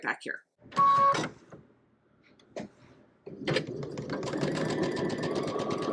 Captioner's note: sewing machine clunking